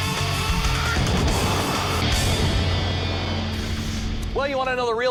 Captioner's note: explosion booms